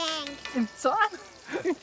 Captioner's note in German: lacht